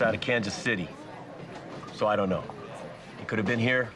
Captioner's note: none